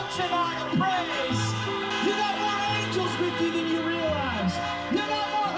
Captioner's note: horns honking